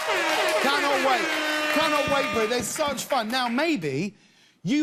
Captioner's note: cheers and applause